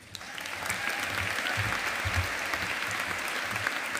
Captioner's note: audience applauding